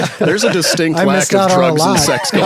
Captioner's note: laughs